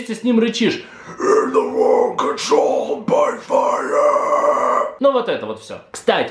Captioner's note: poorly performed growls